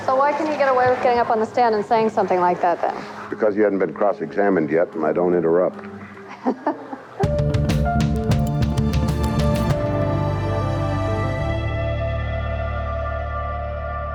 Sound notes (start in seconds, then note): 6.2 reporter laughs; 7.2 theme Music